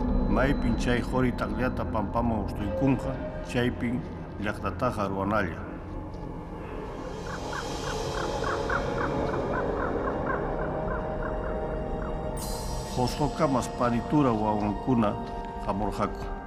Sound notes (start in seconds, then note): 1.2 speaking Quechua; 7.2 bird squawking; 13.6 speaking Quechua